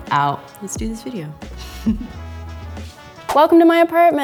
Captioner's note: chuckling